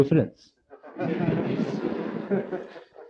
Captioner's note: laughter